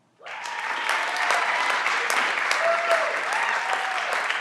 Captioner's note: everyone claps